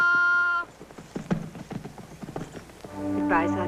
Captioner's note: yelling